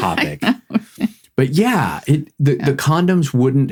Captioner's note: laughing